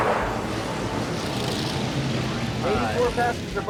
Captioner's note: tires squealing; engine revving